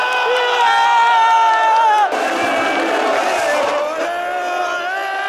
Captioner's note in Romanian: Aplauze